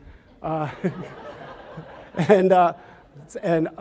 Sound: audience laughs

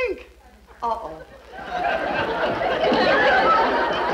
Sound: audience laughs

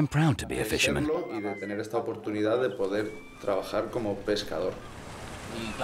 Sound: speaking Spanish

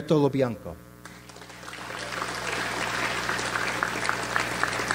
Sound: audience applauds

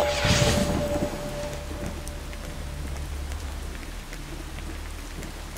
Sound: rain pattering

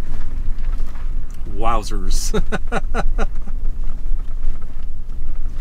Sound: laughs

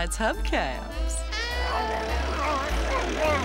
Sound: car grumbling

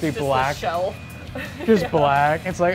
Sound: laughs

